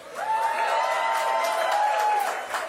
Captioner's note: cheering